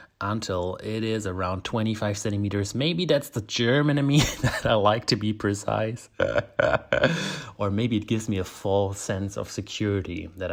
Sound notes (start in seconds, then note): 4.2 laughs